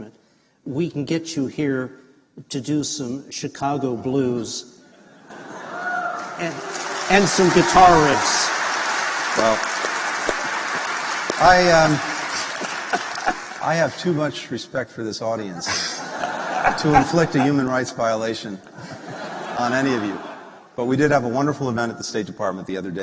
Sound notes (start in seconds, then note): 5.3 cheers; 7.8 applause; 15.6 laughter